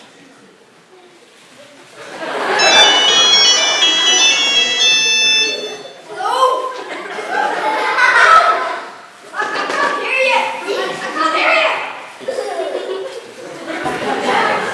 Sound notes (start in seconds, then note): 2.6 mobile phone rings